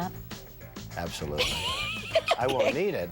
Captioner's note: laughs